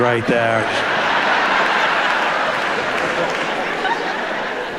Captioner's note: audience laughs